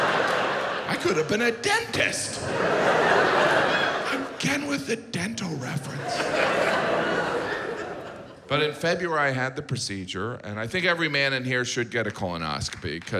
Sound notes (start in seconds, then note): 0.0 audience laughs